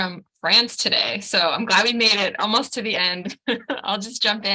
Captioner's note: laughs